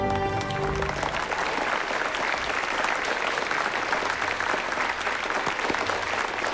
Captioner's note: applause